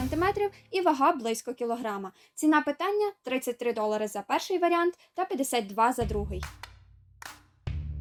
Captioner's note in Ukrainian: оплески